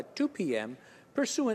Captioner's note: speaking in french